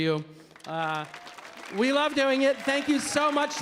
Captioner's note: audience applauding